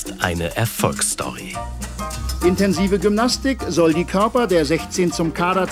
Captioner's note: TV commentary